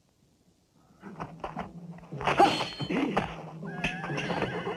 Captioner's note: men grunting; swords clanging; horse whinnying